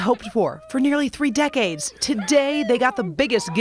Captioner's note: crying